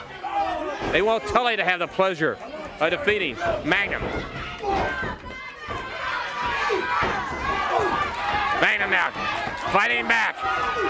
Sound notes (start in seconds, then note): 3.8 crowd cheering; 7.2 crowd cheering